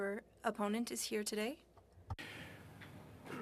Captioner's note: speaking french